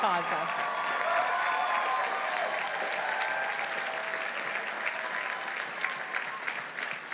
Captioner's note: audience applauding; audience cheering